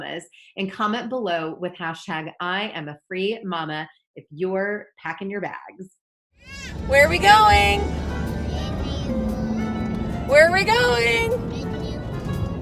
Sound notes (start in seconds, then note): 6.4 baby crying